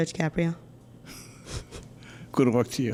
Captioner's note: chuckles